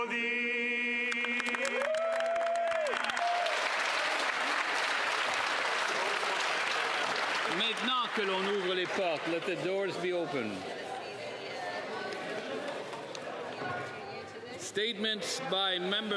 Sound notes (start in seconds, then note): 5.4 cheers & Applause; 12.2 speaking French